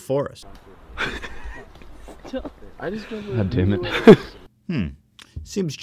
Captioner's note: laughter